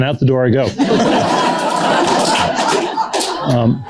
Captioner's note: laughter